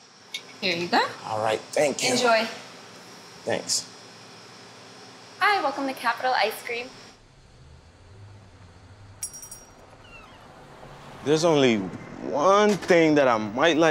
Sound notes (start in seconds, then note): 6.6 traffic rumbling quietly; 9.8 door opening